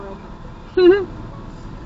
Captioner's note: laughs